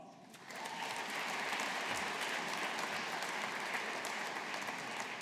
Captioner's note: audience applauding